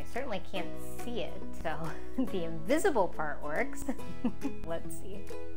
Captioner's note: laughs